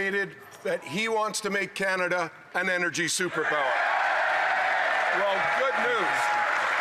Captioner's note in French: voix de l'interprète